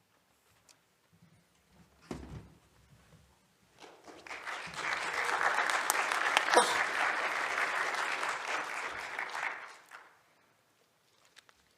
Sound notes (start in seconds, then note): 3.9 applause